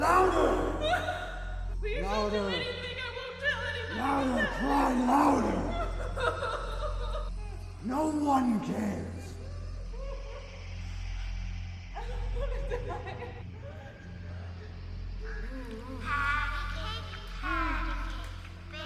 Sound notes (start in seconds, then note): 0.0 woman cries out; 5.8 woman sobs; 9.4 woman cries